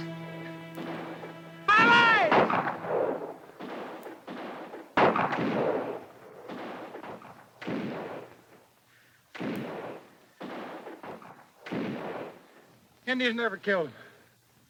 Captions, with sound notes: - Alright! (guns fire) Indians never killed him.